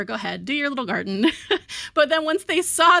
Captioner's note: chuckles